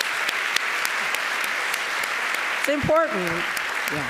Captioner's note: audience applauding